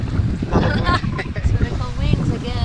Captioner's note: both laughing